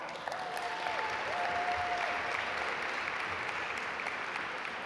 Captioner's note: audience applaud